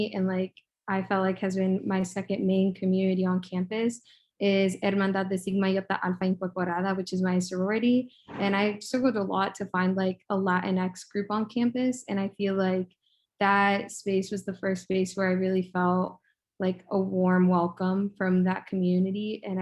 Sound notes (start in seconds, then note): 4.6 speaks in foreign language